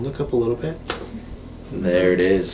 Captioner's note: neck pops